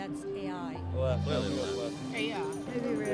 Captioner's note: group deliberating